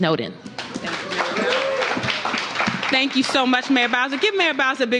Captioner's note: applause